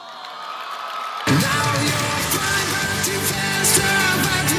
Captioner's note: audience cheering